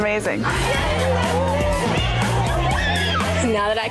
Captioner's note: women cheering